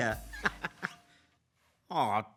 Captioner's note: chuckles